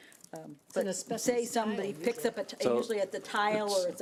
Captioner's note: overlapping chattering